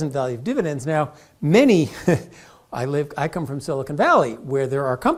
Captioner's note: laugh